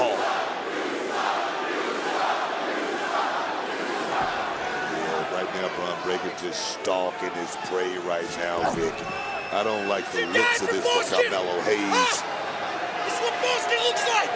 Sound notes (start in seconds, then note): 1.8 crowd chants "you suck."